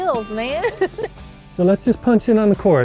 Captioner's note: laughs